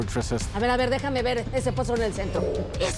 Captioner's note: in Spanish